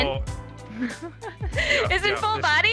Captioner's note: woman laughs